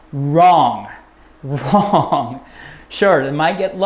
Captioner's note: chuckles